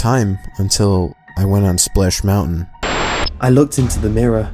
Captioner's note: static transition